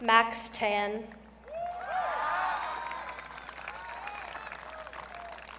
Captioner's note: audience cheering